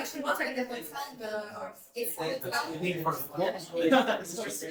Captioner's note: people chattering